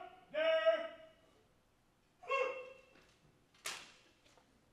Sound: marine shouting orders

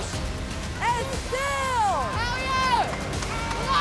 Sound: shouts

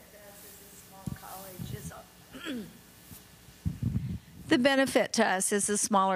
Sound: clearing throat

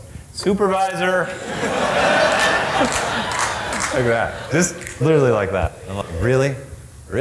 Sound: audience laughs!

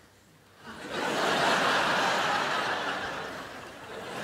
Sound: crowd laughs

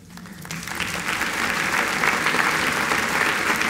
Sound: applause

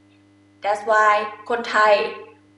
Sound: talking in foreign language

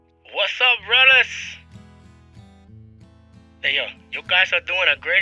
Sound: voiceover

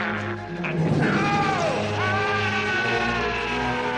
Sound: yelling

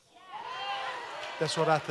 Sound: congregation amens

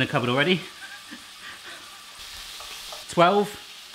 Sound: laughs

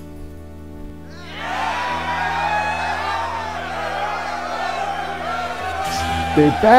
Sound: cheering

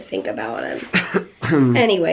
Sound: clearing throat

